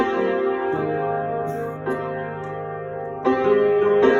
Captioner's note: cough-cough